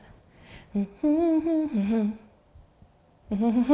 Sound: humming

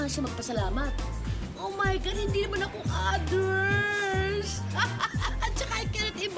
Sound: laughs

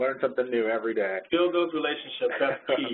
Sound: voiceover

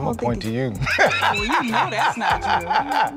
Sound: laughs

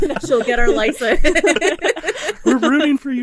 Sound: group laughing

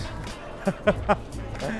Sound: evil laugh

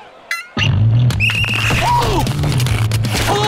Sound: whistling; groaning

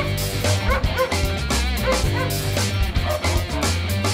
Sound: dog barking; upstart music

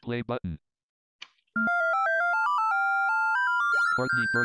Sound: beeping

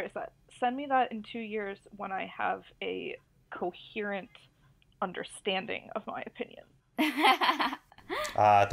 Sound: laughs

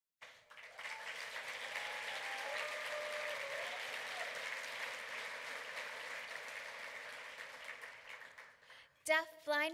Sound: clapping

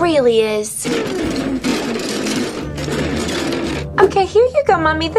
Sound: grinding

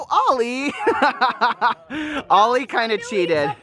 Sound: laughs

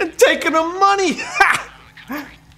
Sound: laughs

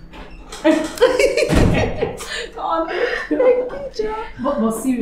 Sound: laughter

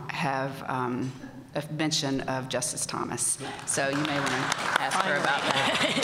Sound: applause

